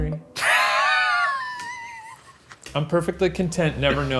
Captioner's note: wheezing